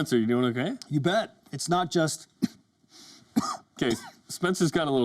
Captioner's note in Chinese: 咳嗽聲